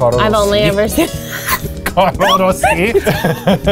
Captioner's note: laughs